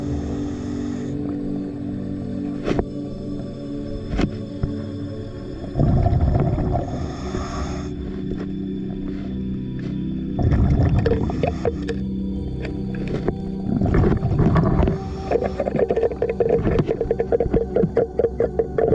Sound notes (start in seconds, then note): 11.3 muffled banging; 15.8 muffled scraping